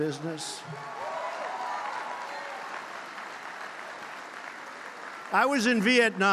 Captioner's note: applause